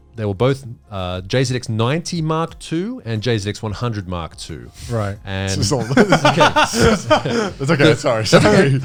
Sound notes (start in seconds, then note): 5.6 laughing